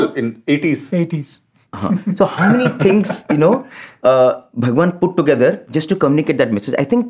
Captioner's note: laughter